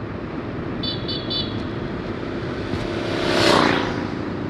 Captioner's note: 3 horns